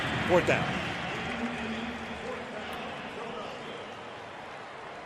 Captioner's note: pa announcement